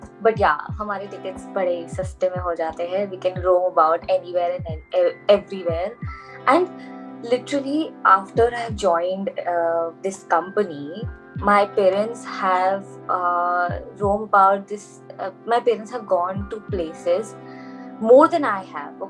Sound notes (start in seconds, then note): none